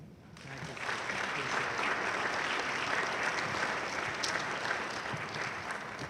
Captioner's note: audience applauding loudly